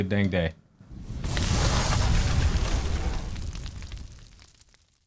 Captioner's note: fire ripples